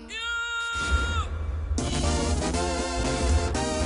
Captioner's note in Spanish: Grito